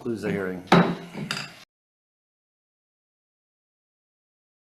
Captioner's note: gavel clacks